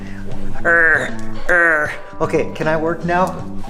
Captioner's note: growls